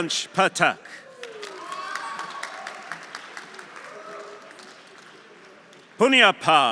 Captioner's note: audience applauding; audience cheering